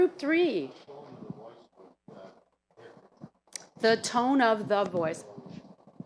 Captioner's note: speaking faintly